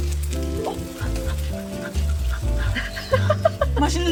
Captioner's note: sniff sniff